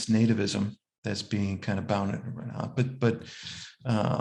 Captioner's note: speaks faintly